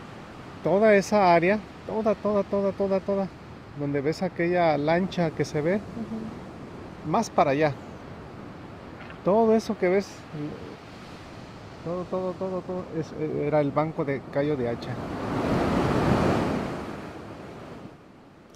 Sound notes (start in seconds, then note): 0.2 speaking Spanish; 10.3 speaking Spanish; 15.1 waves crash